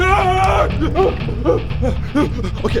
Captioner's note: panicked breathing